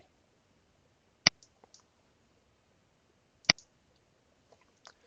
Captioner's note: mouse clicking